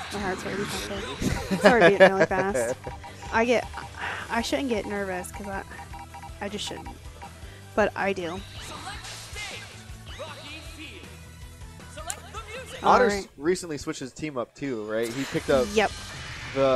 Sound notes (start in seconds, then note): 0.7 laughing